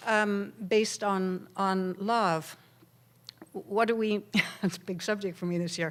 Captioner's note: laughs